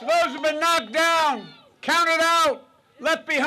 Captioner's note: cheering and applause